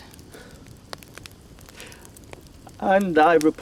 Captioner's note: fire crackling